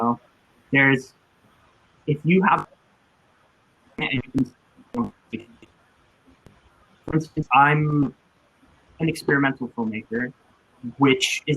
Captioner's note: technical glitch